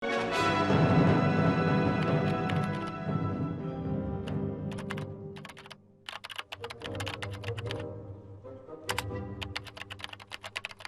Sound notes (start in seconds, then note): 0.0 keyboard clacking; 0.0 dramatic orchestral music; 6.0 keyboard clacking